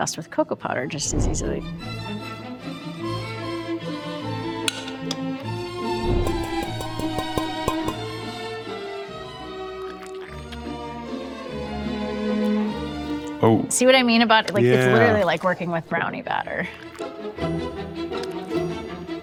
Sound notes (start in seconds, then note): 2.3 orchestral music; 5.5 orchestral music continues; 5.9 pan tapping